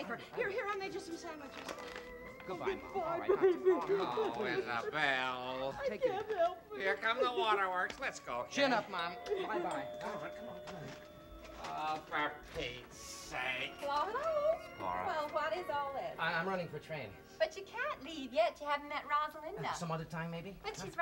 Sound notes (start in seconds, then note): 2.8 mother crying; 8.5 door bell